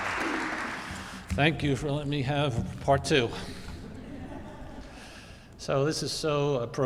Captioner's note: audience applauding